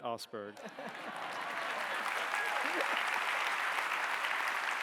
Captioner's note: audience applauding